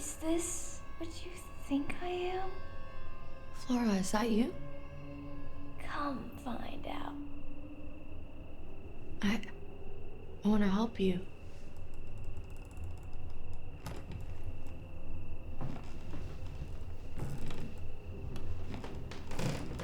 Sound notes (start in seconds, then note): 13.1 floorboards creaking; 13.1 suspenseful music